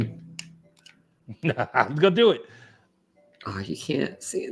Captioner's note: laughs